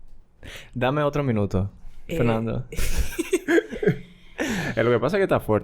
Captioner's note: laughs